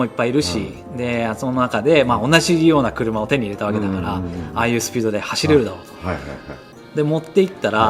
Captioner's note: laugh